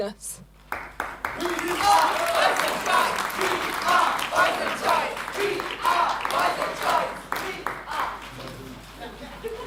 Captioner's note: applause